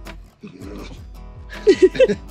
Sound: Bindi growl

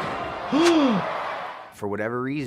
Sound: gasps

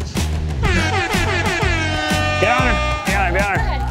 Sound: horn sounding

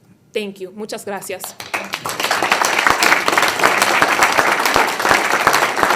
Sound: audience applauding

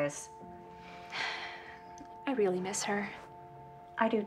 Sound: sighs

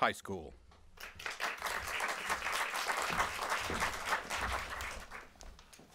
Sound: applause

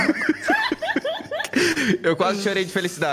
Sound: laughs

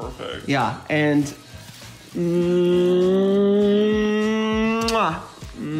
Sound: both make kissing noises

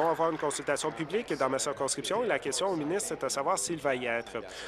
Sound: applause

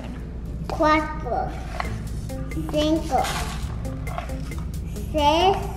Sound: speaking in foreign language

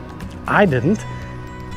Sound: wing knocking

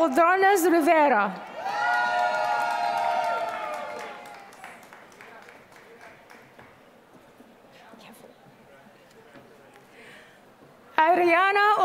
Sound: applause

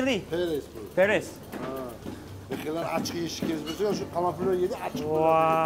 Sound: in foreign language

